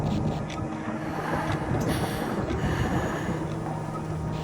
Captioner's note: child Sighs